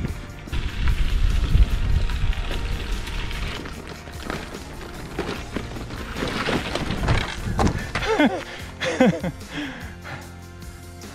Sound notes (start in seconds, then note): 0.7 tires crunching; 7.7 laughing